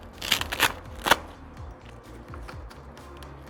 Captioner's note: velcro ripping